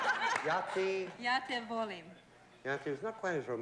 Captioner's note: speaking yugoslav